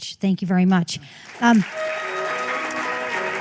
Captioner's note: applause